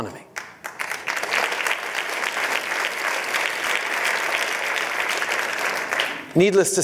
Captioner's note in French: Applaudissements